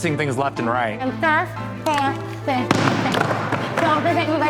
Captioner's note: wood thudding